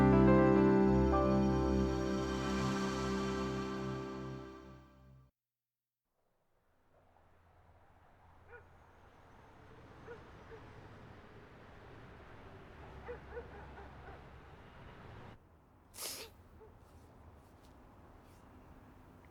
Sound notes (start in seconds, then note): 15.9 sniffling